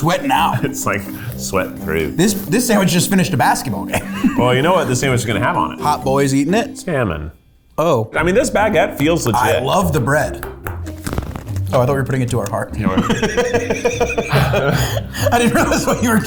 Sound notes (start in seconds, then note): 12.8 laughs